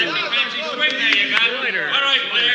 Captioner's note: crowd murmuring